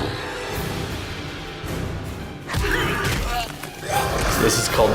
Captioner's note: dramatic orchestral music; grunting